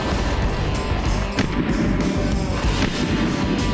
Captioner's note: whooshing; gun firing